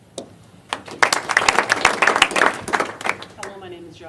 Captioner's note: applause